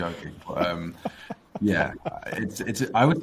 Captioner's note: laughing